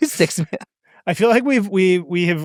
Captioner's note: laughs